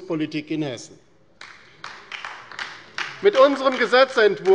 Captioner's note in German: Beifall bei der LINKEN